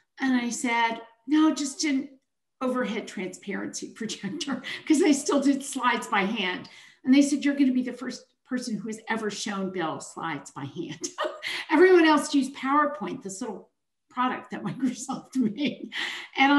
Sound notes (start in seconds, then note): 11.0 chuckles